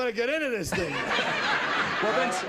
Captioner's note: laughter